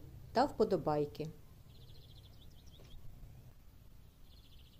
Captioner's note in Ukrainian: голоси птахів